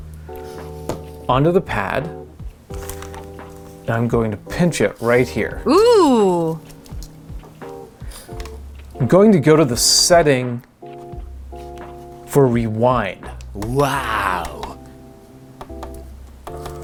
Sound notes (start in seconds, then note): 5.6 female voice: ohhhh